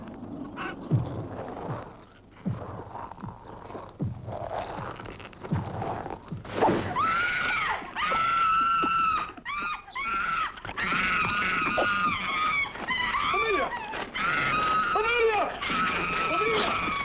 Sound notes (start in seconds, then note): 6.9 Amélia gritando